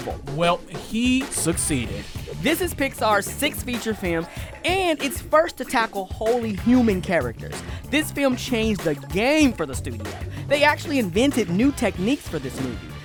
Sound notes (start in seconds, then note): none